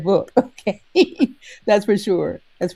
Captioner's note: chuckles